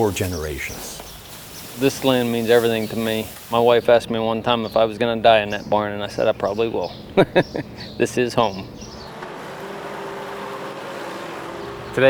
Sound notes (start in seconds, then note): 7.1 laughs